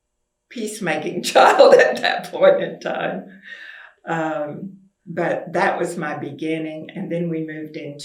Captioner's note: laughs